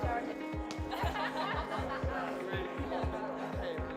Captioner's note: laughing